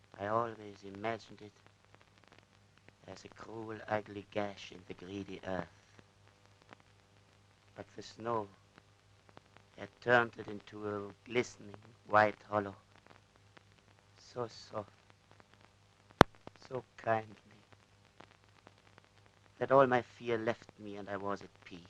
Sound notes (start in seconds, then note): none